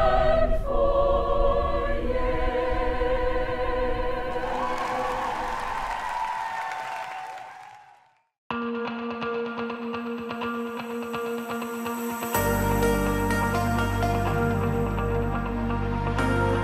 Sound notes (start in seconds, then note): 4.3 crowd cheering; 8.8 energetic music